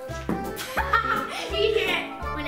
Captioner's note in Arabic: وكلاهما يضحك